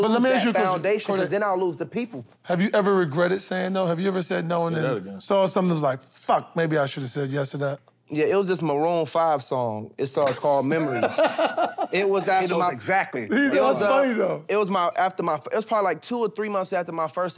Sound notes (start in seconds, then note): 10.6 scoffs; 10.8 laughs